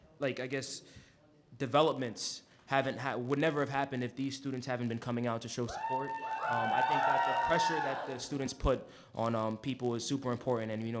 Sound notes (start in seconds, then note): 5.6 cheering